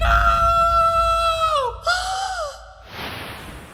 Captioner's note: gasps